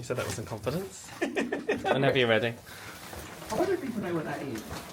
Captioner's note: laughing